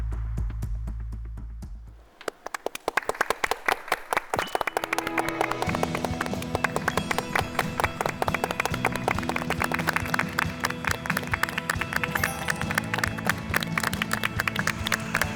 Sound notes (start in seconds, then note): 4.4 thunderous applause; 6.9 A big applause frrom the start